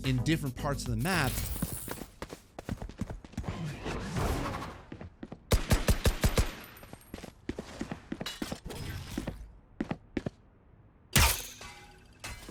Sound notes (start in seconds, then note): 1.3 footsteps; 5.5 gunshots; 6.6 footsteps; 11.2 sound of an arrow shot; 12.3 arrow bounces off of walls